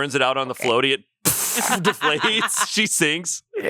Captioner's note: blows raspberry